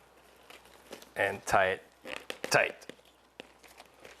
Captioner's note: straining